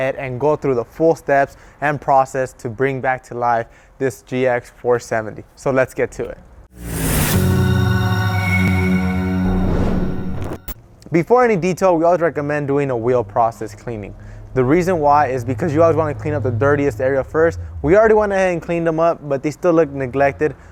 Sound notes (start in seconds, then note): 6.7 logo whooshes; 6.7 majestic music